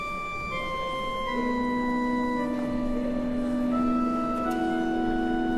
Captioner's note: organ playing; background conversations